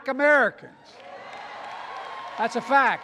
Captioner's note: applause